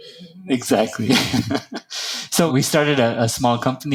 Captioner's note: laugh